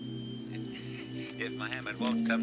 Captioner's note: Olander chuckles